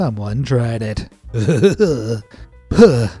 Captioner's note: shudder